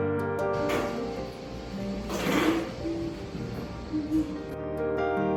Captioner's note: mom humming